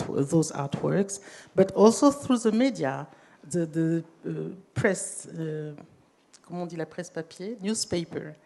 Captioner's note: speaking french